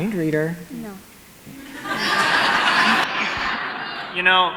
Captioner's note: audience laughs